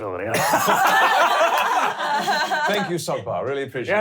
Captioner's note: laughing